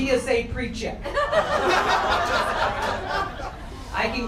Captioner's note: crowd laughter